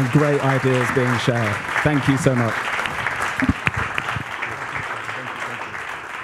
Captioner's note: applause